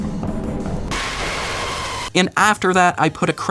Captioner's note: mechanical shriek